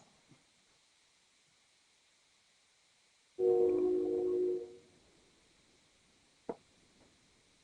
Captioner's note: train horn in background